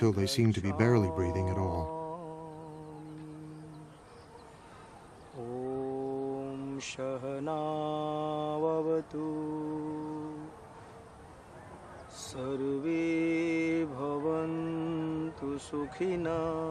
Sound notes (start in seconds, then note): 5.9 chanting continues